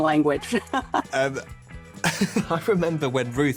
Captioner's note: laughs